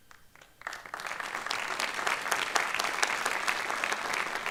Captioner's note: applause